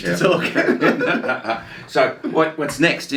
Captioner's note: laugh